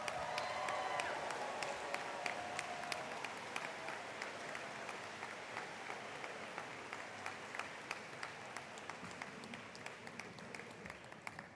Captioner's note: applause